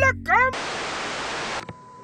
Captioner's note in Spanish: estática